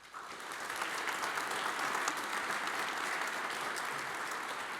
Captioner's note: audience applauds